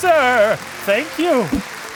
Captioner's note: applause